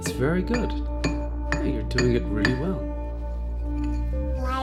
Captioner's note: chisel chinks against stone; Michelangelo babbles